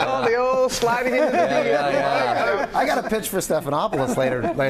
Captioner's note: laughter